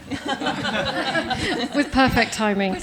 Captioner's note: laughter